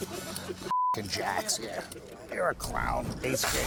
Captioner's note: laughter; beep